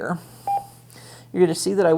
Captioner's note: radio beeps